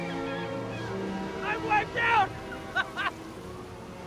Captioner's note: laughs